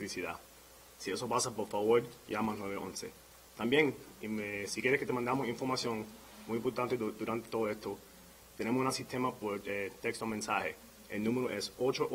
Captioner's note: speaking in spanish